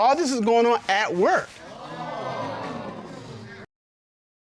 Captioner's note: audience gasps